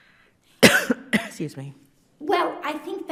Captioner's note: coughs